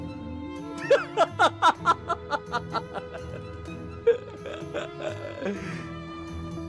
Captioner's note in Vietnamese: Tiếng cười